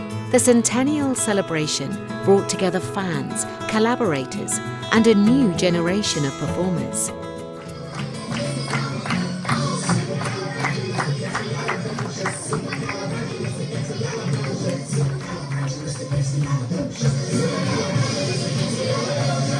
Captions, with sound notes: The centennial celebration brought together fans, collaborators and a new generation of performers. (applause) (upbeat music)